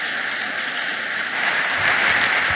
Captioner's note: applause